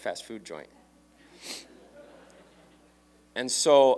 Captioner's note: laughter